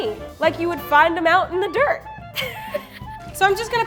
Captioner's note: laughs